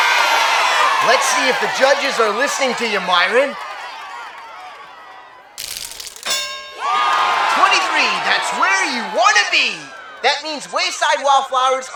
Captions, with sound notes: LET'S SEE IF THE JUDGES ARE LISTENING TO YOU, MYRON. (BELL DINGS) 23, THAT'S WHERE YOU WANT TO BE. THAT MEANS WAYSIDE WALLFLOWERS, ARE IN THE LEAD!